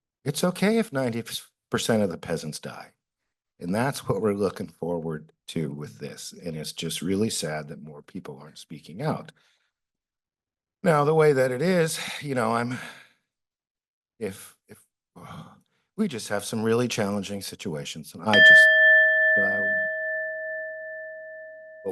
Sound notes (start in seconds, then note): 9.4 pause; 14.9 sighs; 18.3 bell rings